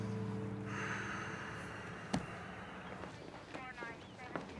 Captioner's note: sighs